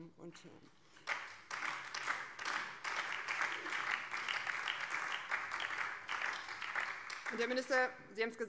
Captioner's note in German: Beifall BÜNDNIS 90/DIE GRÜNEN